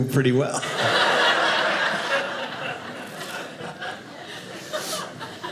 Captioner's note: audience laughing